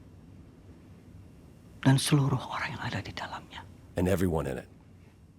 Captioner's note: mycologist speaks indonesian